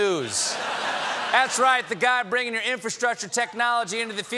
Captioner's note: laughter